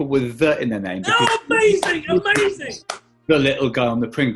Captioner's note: clapping